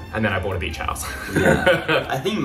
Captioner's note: laughs